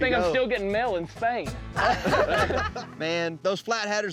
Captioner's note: all laughing